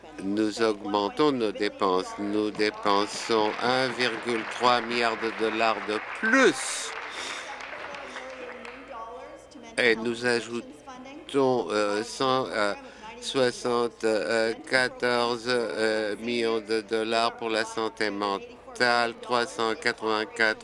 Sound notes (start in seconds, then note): 7.0 applause